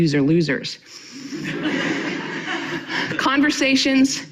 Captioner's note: audience laughing